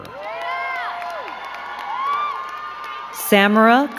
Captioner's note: crowd cheering and clapping